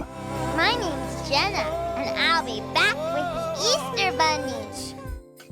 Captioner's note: little girl’s voice